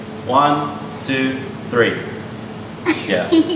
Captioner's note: laughter